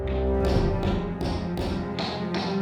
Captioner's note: repeated bonking noises